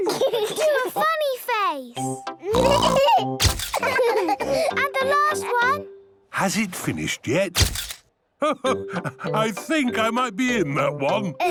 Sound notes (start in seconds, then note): 0.0 giggling; 3.7 all laughing; 7.6 camera clicks